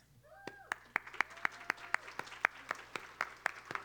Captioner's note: applause